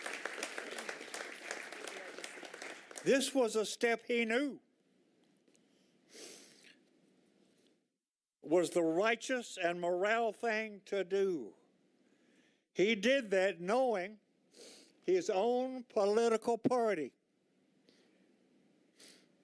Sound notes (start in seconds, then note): 3.5 applause